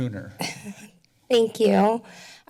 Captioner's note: laughter